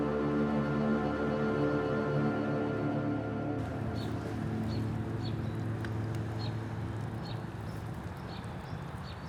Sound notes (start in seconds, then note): 5.7 birds chirping